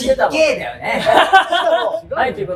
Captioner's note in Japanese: 笑い声